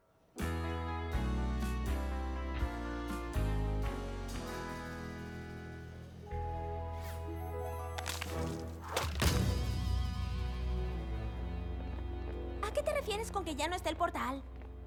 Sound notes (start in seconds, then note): 8.0 stomp